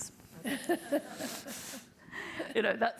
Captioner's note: all laughing